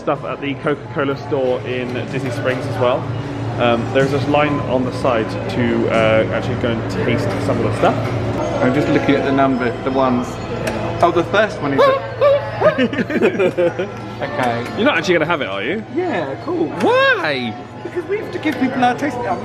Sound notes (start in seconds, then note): 11.9 screaming; 12.2 laughing